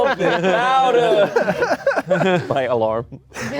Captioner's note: laughing